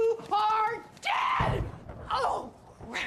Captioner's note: thunder rumbles